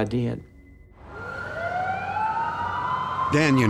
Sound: siren wailing

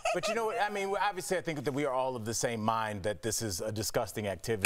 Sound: laughter

